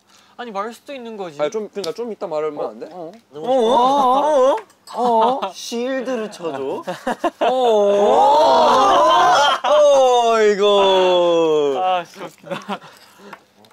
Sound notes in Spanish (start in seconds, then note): 5.8 Jajaja; 12.1 Jajaja